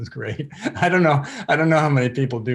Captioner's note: chuckles